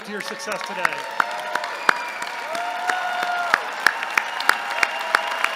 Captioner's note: cheering